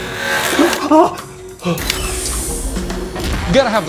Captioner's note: man yells